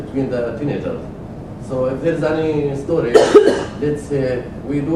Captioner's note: cough